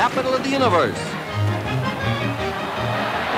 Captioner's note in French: acclamations d'une foule